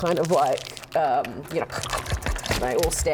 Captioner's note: unnerving bone crunching sounds